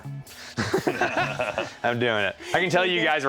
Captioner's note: laughs